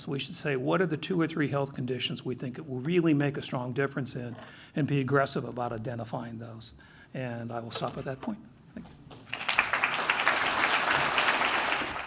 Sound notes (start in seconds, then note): 9.1 applause